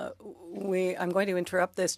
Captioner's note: speaking French